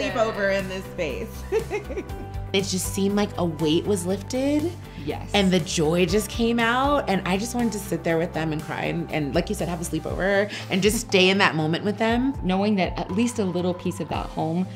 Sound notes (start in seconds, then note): 1.4 giggles